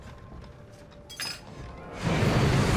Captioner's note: spoon clatters